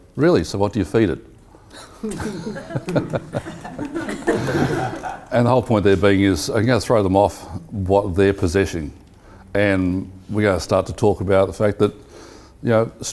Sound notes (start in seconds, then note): 1.7 laughs